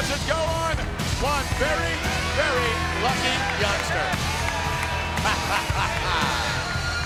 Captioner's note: laughs